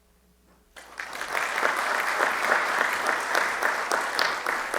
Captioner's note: audience clapping